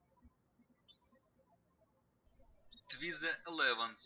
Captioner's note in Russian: птички щебечут